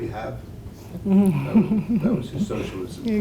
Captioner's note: laugh